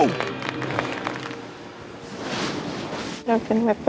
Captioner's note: teammates clap